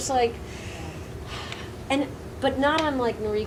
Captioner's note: sighs